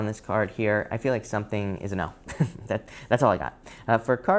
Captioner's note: laughs